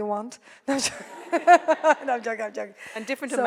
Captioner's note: laughs